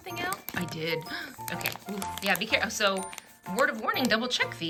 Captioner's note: gasps